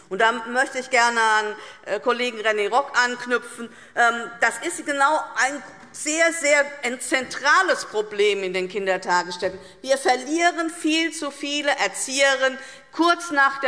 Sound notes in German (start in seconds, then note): none